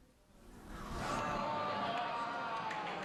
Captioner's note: audience groans